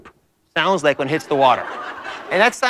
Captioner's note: laughter